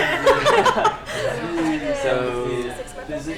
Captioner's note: laughter